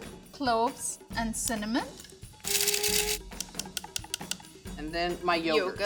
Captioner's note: spice grinder whirring